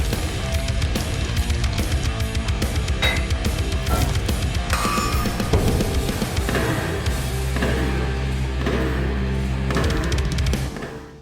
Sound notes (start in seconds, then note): 2.9 steel clanging repeatedly